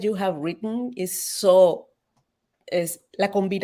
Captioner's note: speaks Spanish